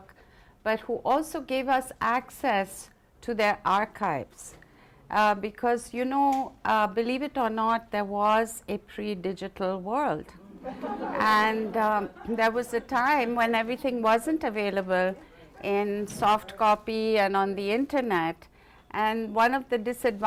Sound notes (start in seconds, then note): 10.4 laughter